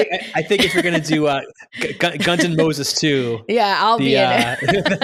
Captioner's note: laughs